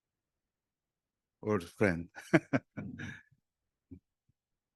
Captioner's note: laughs